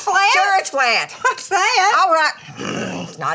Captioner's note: groans